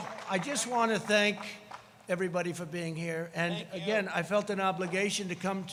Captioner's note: applause